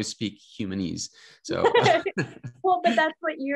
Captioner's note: both laughing